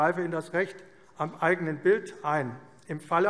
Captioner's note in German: none